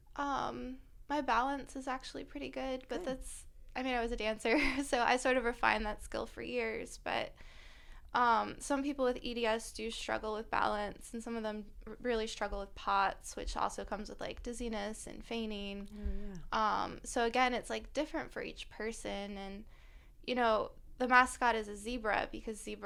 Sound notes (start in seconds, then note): 4.5 laughter